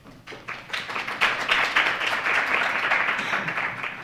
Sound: applause

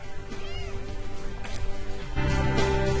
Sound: kitten mews

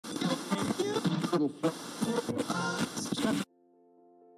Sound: SFX: Radio static plays, scanning through various channels

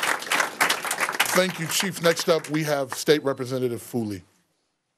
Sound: applause

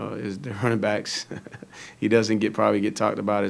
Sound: giggles

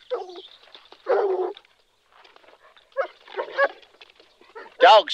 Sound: dogs barking

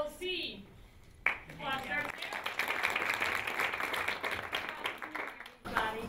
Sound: applause

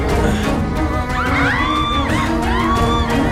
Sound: screams

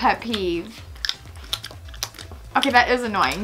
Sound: smack their lips

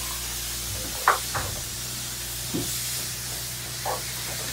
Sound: spraying noise

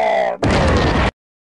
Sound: laser exploding

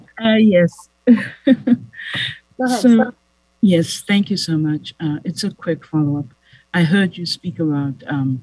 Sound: laughter

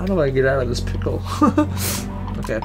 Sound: panicked chuckle

